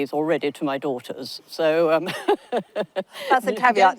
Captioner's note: laughs